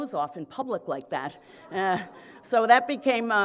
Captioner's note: laughter